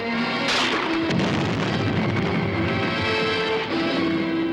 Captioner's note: grenade explodes